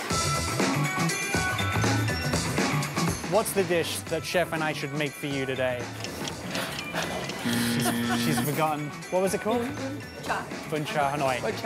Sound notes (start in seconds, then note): 0.2 upbeat music; 6.4 Stephanie laughing